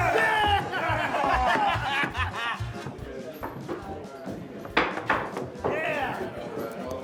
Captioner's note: men laughing; lively music